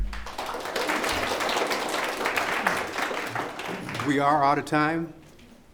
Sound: audience applause

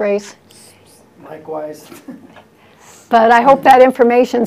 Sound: laughs

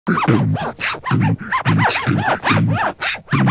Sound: beatboxing

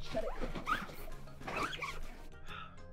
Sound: tent zipper screeching

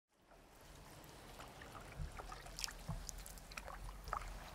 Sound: paddle splashes

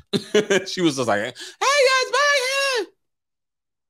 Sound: laughs

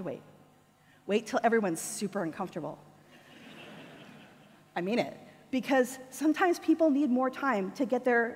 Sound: audience laughter

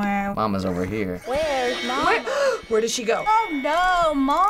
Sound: gasps

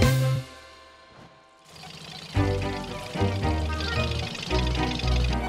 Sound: motor running; radar sound

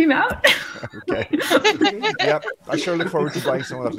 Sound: all laughing

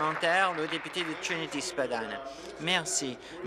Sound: applause

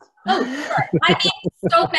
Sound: laughs

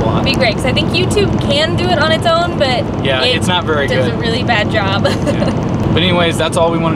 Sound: laugh

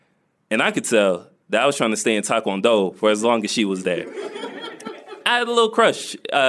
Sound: laughs

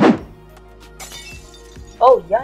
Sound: crash

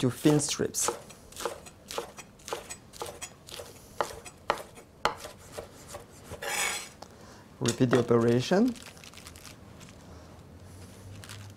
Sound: slicing sounds

